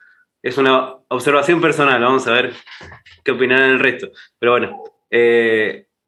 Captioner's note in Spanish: risas